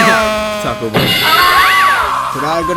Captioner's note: chuckles